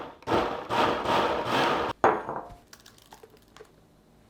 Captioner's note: banging